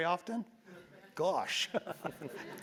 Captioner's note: laugh; laugh